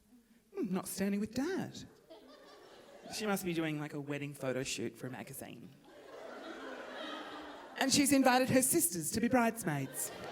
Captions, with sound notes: Hmm, not standing with dad. She must be doing a wedding photo shoot for a magazine. (audience laughing) And she's invited her sisters to be bridesmaids.